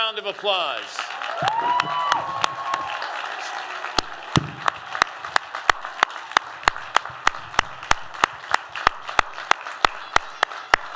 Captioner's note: applause